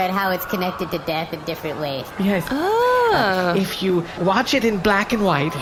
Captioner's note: conspiratorially